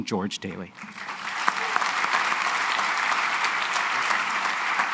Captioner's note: applause